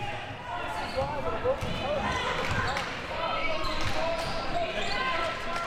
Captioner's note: audience chattering and yelling